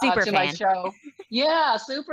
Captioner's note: laughs